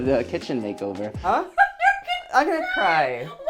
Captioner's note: laughing